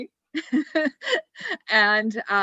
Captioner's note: laughs